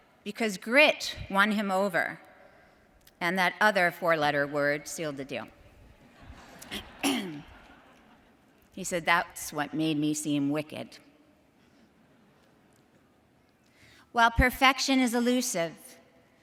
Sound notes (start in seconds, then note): 6.0 audience laughs; 6.7 clears throat